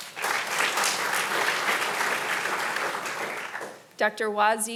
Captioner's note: audience applauding